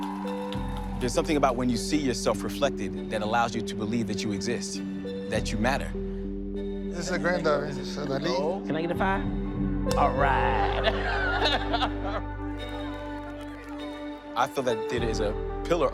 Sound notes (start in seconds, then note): 0.0 cheering and applause; 10.0 laughs